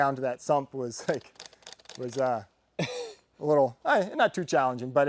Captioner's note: man chuckles